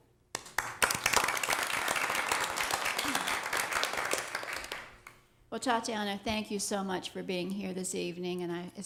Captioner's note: applause